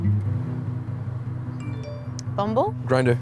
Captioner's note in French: notification